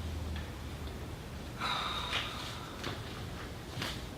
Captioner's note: sighs